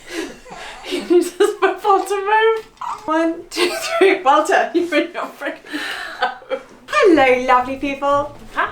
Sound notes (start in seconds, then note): 0.1 laughs; 4.1 laughs